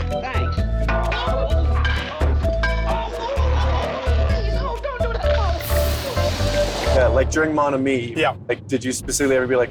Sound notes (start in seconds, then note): 0.9 grunts